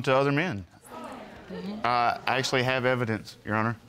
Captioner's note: audience murmuring